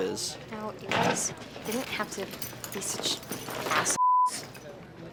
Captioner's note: beeps